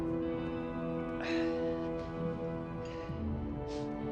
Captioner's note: Teplov exhales; gentle music